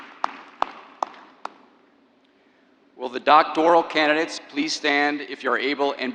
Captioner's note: applause